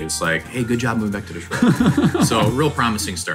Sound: laughing

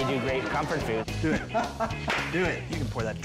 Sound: chef laughing

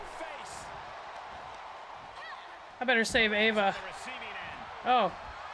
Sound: applause

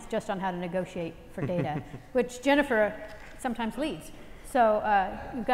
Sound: laugh

